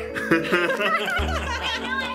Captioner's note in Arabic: ضحك